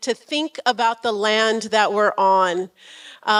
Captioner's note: none